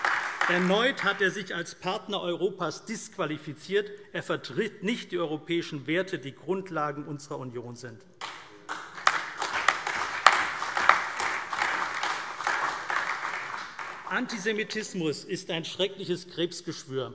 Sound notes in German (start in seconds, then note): 8.2 Beifall CDU, BÜNDNIS 90/DIE GRÜNEN, SPD, AfD und Freie Demokraten